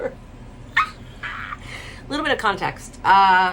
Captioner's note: laughs